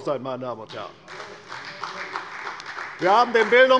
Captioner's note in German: Beifall bei der CDU